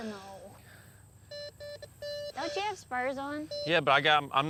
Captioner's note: beeps